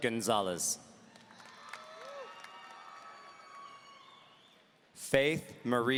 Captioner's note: audience cheering